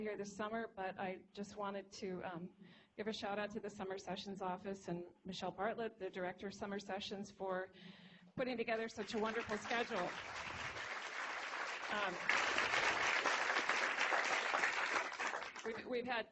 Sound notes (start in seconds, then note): 10.4 applause